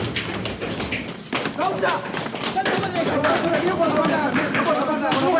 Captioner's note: agitated shouting